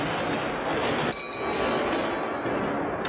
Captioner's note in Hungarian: mennydörgés; csengetés